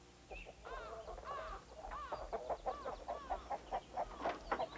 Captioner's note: chickens clucking